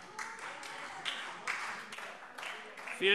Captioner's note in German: Beifall Freie Demokraten und vereinzelt SPD